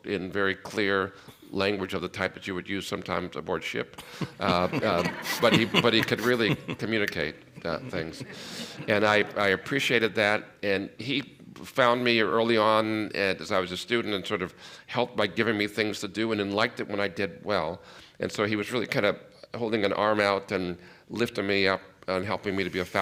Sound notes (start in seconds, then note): 4.0 laughter